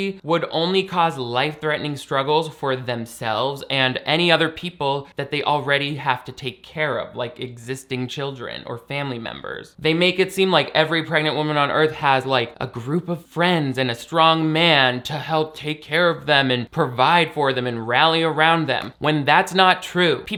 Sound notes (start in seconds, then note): none